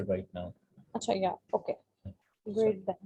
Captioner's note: speaking foreign language